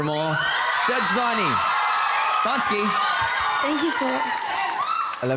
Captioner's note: cheering